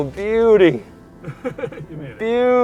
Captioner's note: laughter